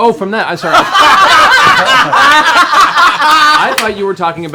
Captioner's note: laughter